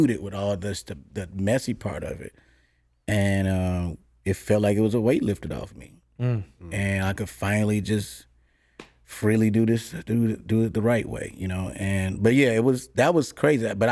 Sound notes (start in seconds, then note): none